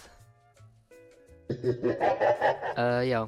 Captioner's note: devious laughter